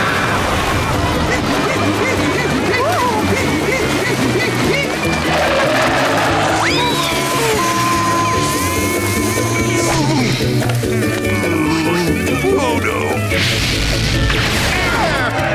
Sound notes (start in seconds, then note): 0.0 screaming; 2.4 panting